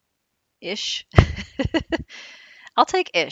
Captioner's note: laughs